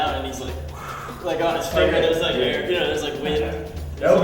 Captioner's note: blows